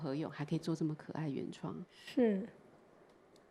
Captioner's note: Mandarin